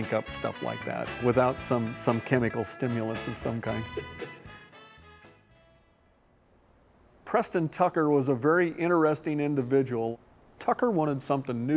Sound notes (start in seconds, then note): 3.7 laughs; 6.1 upbeat music